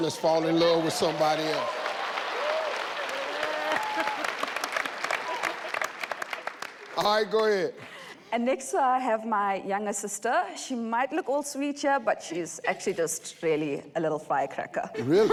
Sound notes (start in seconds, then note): 2.0 audience cheers; 2.9 clapping